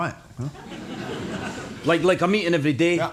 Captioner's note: audience laughs